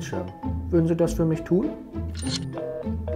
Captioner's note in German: Besetztton